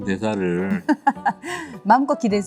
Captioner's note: haha